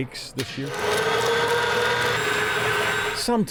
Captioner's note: mixer whirring